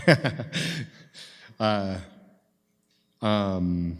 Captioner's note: chuckles